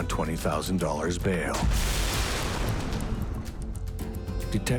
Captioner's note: thunderous explosion; glass crashing